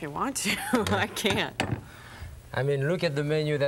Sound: chuckling

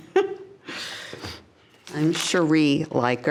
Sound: laughs

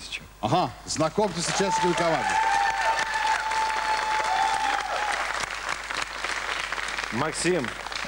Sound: applause

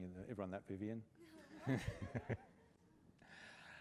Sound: laughter

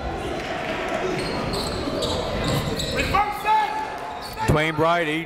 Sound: whistle blows; crowd talking; coaches yelling

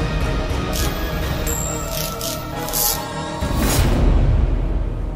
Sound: electric current sound

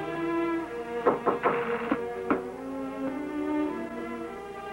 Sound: door knocking

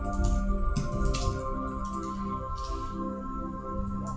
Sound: keys clacking

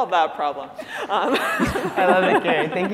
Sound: laughter

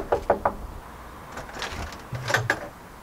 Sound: door knocking; door opens

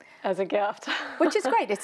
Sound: chuckling

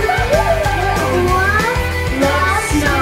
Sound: people laughing

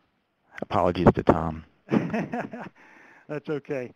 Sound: laughter

